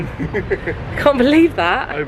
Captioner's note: chuckling